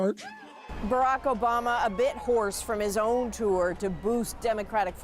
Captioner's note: applause